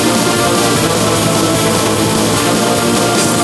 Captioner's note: roaring